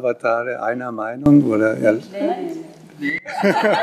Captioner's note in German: Lachen